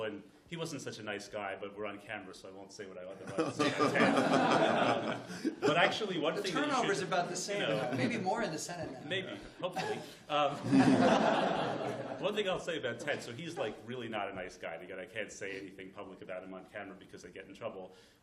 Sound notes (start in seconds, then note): 3.2 laughter